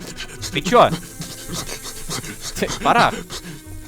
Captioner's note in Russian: Шипение змеи